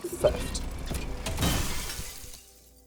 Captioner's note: hydraulic hammer smashing glass